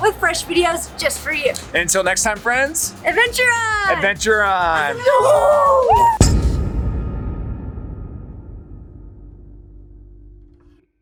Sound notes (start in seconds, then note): 5.2 cheers